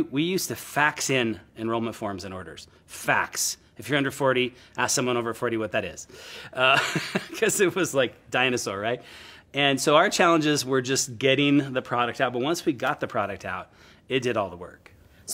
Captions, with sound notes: We used to fax in enrollment forms and orders. Fax. If you're under 40, ask someone over 40, what that is. (laughs) 'Cause it was like dinosaur. And so our challenges were just getting the product out. But once we got the product out, it did all the work.